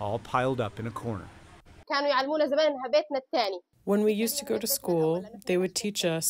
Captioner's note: through translator